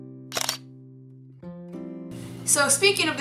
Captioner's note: shutter sound